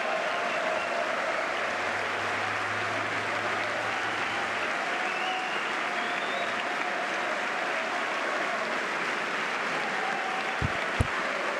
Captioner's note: applause